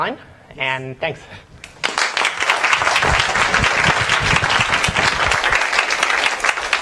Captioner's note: applause